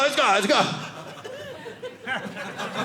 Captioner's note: audience laughing